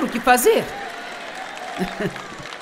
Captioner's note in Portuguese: audiência aplaude